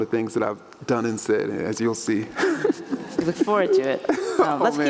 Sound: laughs

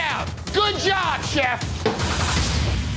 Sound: hand banging; intense music continues

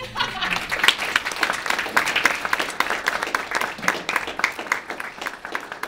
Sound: audience applaudes

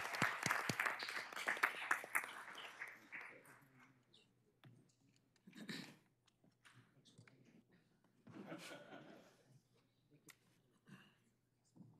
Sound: applause

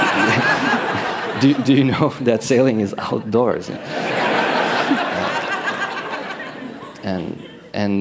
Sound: loud laughter; laughter

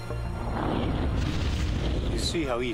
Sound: explosive woosh

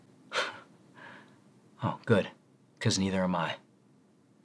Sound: scoffs

